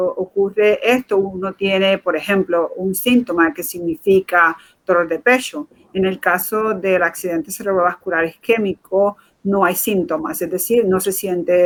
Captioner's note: speaking in Foreign Language